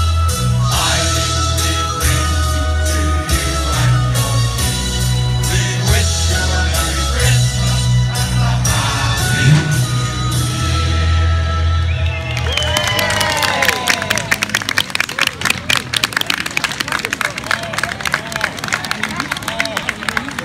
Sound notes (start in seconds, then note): 11.8 cheering and applause